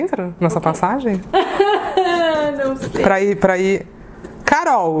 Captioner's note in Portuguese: finge choro